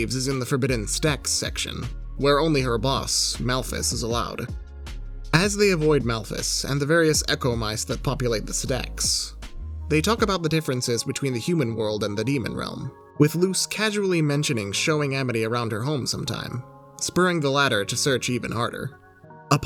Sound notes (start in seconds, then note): none